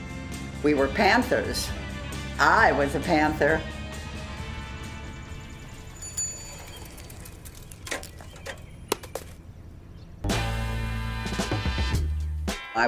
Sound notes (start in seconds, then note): 0.0 lively music; 5.0 bicycle bell dings; 10.2 mellow music